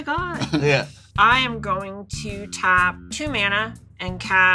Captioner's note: chuckling